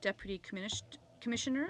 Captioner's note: speaking in french